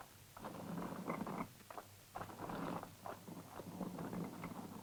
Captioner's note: stone scraping